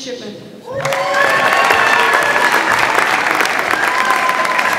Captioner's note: audience applauds